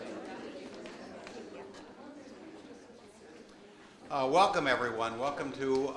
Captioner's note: audience chattering